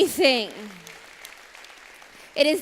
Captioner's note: applause